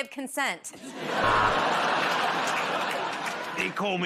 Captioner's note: buzzer buzzes